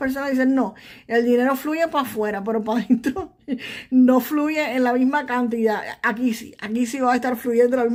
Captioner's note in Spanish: risas